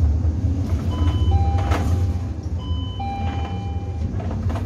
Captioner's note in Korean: 하차벨 소리